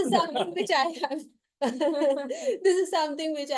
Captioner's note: laughter